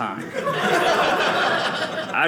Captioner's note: audience laughing